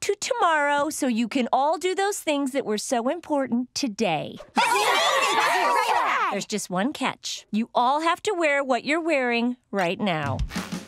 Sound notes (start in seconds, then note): 4.5 cheering